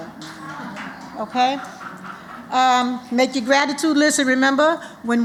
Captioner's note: applause